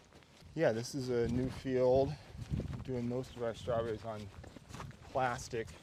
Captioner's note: none